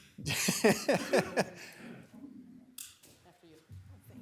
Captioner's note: laughs